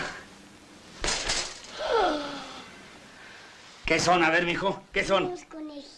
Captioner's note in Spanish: Expresión de sorpresa